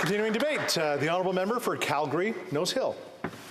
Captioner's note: applause